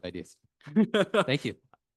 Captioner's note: laughter